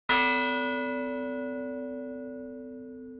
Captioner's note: bell tolls